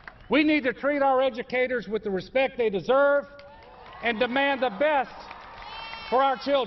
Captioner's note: applause